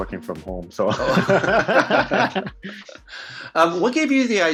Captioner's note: laughs